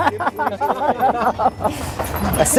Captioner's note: laughter